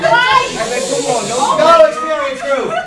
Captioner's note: laughter